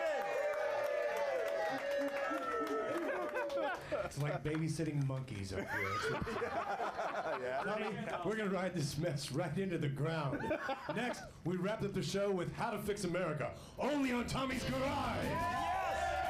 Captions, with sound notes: MATTHEW GUIDRY! [AUDIENCE CHEERING] - MATTHEW, WHAT'S HAPPENING? - IT'S LIKE BABYSITTING MONKEYS UP HERE. [Laughter] WE'RE GOING TO RIDE THIS MESS RIGHT INTO THE GROUND. NEXT WE WRAP UP THE SHOW WITH HOW TO FIX AMERICA.